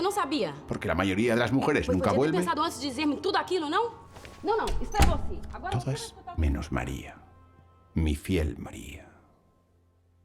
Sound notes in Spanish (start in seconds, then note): 2.6 hablando en portugués